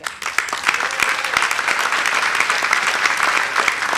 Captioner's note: audience applauding